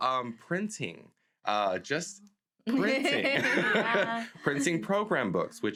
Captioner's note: laughs